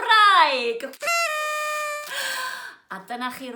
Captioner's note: party blower noise